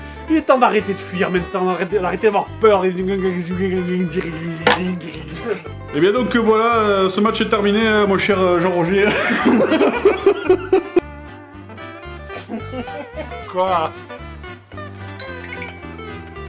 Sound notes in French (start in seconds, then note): 5.6 voix commentateur; 9.1 rires